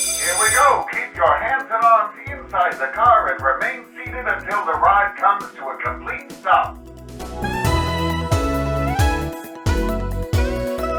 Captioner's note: bell rings